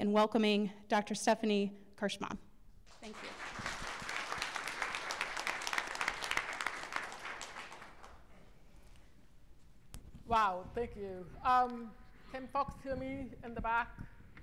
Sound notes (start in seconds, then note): 6.7 applause